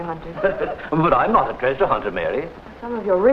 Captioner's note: chuckles